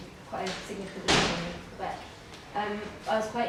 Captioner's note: door slams drowning out